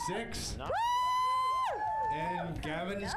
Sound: audience cheers

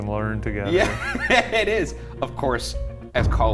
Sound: laughing

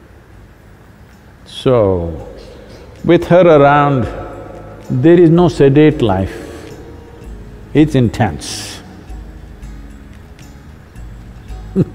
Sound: laughs

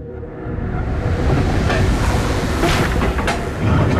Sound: mechanism moving

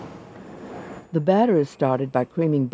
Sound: voiceover

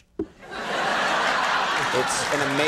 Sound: applause

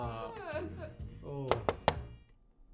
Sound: door knocks

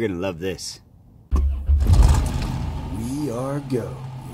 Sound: engine Starts

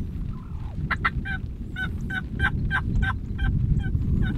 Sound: turkey calls

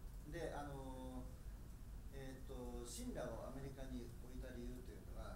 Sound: speaking in foreign language

